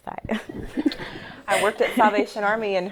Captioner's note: laughter